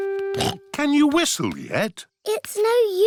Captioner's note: snorts